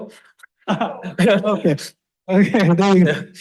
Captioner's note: laughs